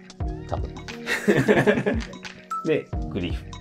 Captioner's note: laughing